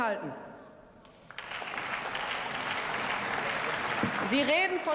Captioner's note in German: Beifall